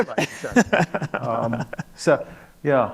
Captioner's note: laughs